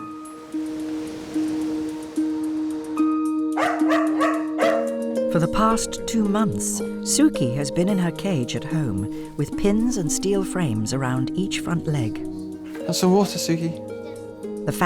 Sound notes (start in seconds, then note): 0.1 gentle music; 3.5 dog barking